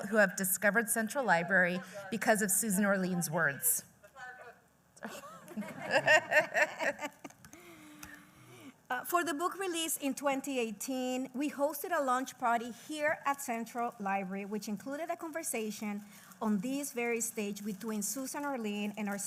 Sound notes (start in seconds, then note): 5.0 laughs